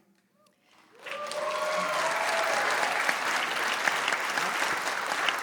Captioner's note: applause